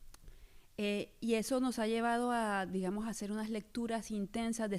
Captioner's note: speaking spanish